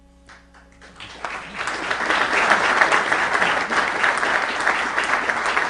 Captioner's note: applause